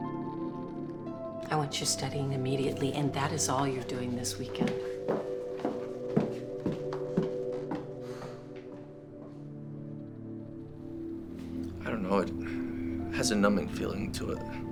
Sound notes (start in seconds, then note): 4.4 footsteps clacking; 8.0 Drew sighs